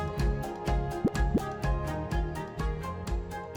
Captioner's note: graphic pops